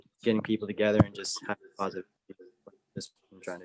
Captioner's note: audio cutting out